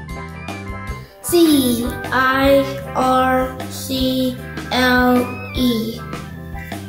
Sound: goo Goo

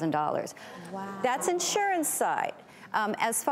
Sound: gasping and sighing

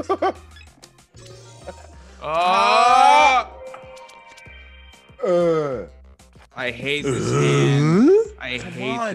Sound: laugh

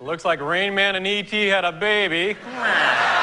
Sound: laughter

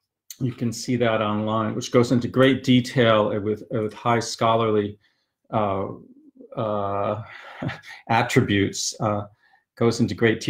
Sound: giggles

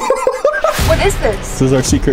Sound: laughing

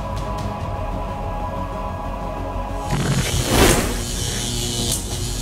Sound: electric laser noises

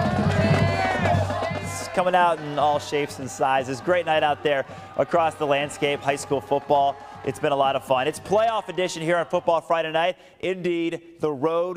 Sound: cheering

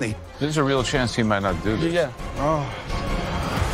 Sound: groans

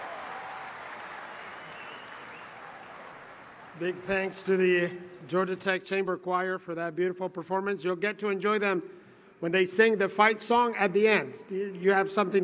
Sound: applause

